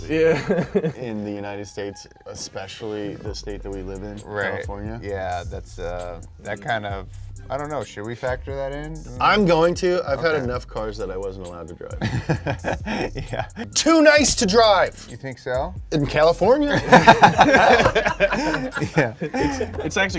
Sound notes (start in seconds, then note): 0.2 chuckles; 12.0 laughing softly; 16.6 all laughing